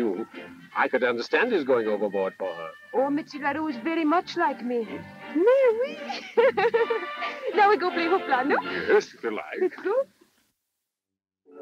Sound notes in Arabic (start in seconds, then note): 5.8 يضحك; 6.0 يتحدث بلغة أجنبية